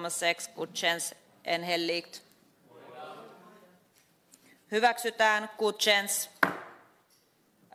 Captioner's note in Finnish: nuijan kopautus